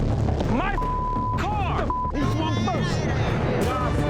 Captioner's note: dramatic music; beep